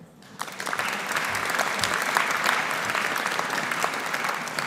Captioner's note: audience applauding